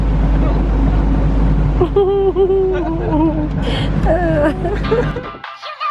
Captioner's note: chuckling